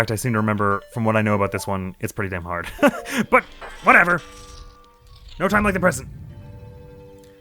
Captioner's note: laughs